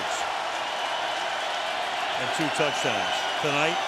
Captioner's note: cheering